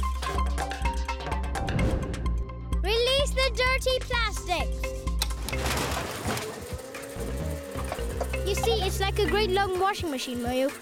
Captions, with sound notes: - Release the dirty plastic. (whirring) You see, it's like a great long washing machine, Moyo,